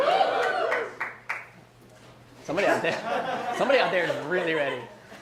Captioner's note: audience cheers